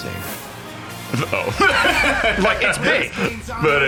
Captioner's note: laughs